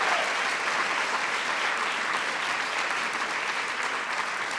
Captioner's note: applause